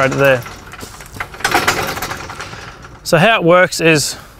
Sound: metal clanking

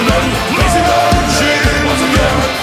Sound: marching

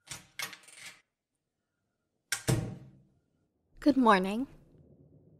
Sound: sound: Door opening

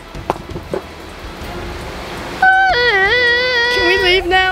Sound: crying

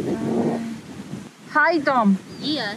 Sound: speaks Foreign Language

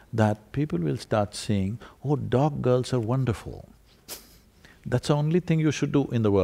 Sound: laughs

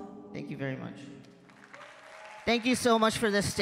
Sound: audience claps

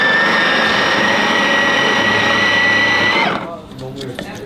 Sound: the juicer makes a loud noise but won't make any juice

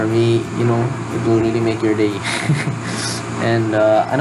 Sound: chuckles

